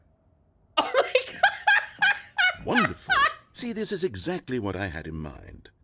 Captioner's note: cracks up again